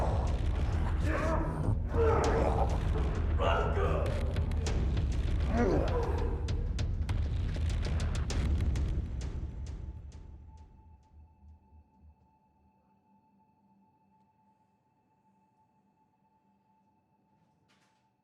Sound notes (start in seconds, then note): 0.0 demon groaning in pain; 2.4 both grunting; 5.4 both grunting; 8.2 mellow upbeat music; 10.8 soft tense music